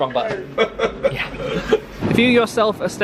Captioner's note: traveller laughs